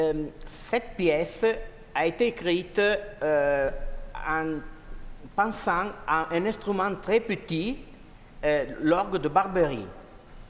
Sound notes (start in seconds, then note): 1.4 speaking french